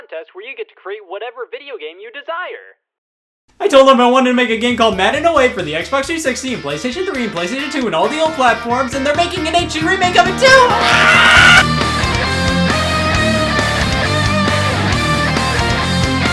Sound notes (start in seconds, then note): 10.5 screams; 11.8 intense rock music